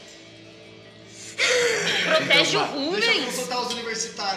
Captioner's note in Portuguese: risada